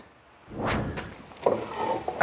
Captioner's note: whooshing